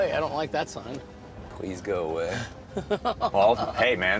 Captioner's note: laughs